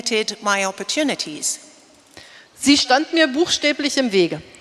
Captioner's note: speaking in German